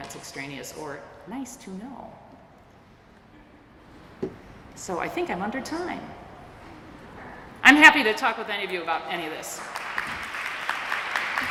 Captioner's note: applause